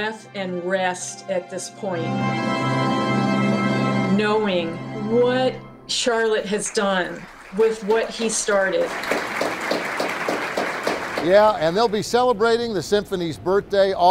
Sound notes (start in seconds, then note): 10.4 audience applauds